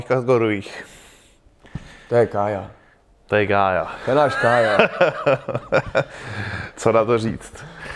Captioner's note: laugh